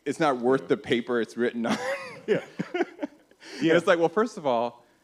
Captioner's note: laughs